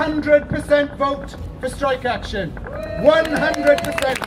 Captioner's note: applause